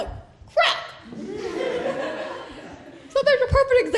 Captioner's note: laughter